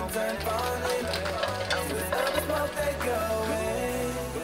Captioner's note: food clattering